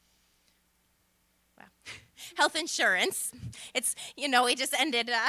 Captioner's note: laughter